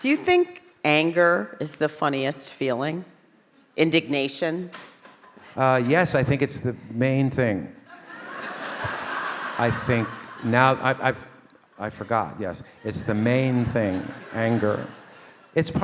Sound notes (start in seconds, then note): 7.8 all laugh